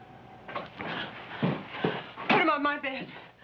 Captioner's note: panting